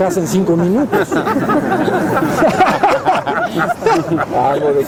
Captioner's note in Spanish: Risas